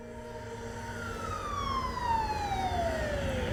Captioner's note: ambulance siren wailing